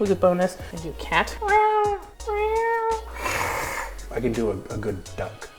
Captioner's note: cat sound